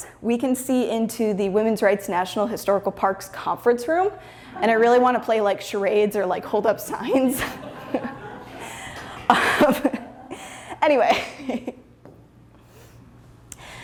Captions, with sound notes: we can see into the Women's Rights National Historical Park's conference room and I really want to play like, charades or like, hold up signs. *laughter* Anyway.